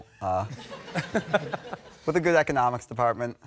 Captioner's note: laughter